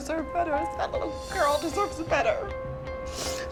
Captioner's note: sniffles